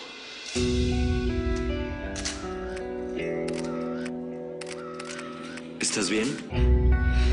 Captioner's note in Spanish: Sonido de las cámaras